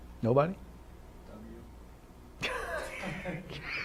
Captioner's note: laughter